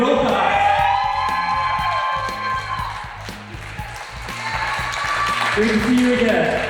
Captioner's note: crowd cheers